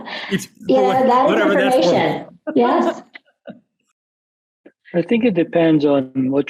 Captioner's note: laughs